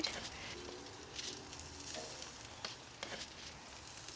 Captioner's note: grill sizzling